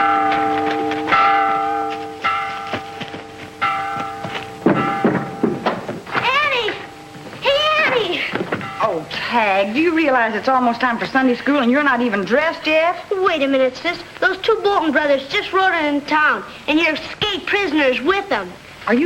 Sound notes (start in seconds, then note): 0.1 bell ringing; 4.8 shoes stomping